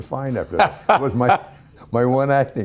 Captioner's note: Ken Howard laughing